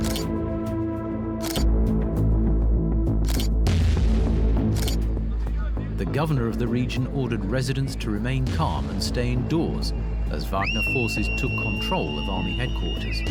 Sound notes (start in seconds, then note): 0.7 camera clicks